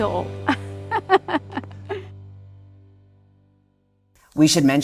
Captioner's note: laughs